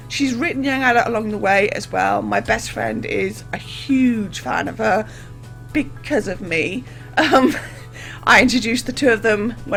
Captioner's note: laughs